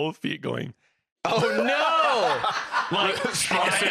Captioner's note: others laughing